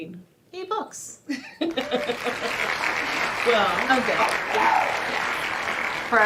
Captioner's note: clapping sound effect